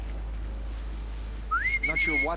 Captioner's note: whistle